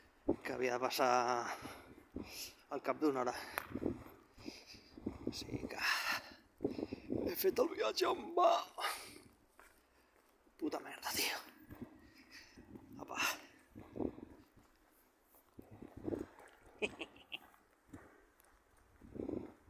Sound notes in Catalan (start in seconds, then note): 16.7 Riu